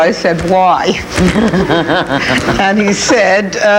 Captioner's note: everyone laughing